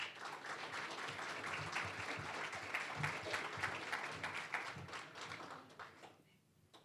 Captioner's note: applause